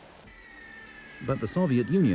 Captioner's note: shells whistle